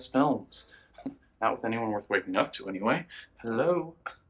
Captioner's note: scoffs